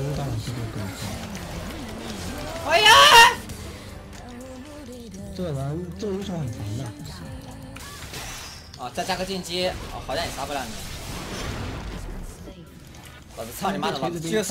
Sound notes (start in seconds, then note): 2.5 dolphin mating call